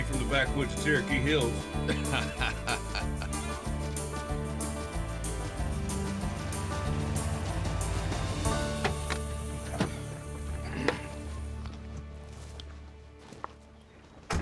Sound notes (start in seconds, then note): 1.8 casey laughs; 5.0 upbeat country music; 9.7 car doors open